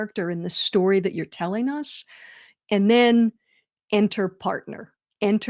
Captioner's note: none